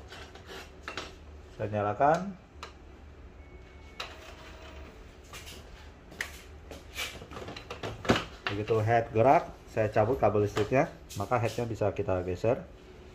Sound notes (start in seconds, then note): 3.8 printer machine sound